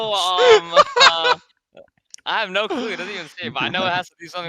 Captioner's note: laughs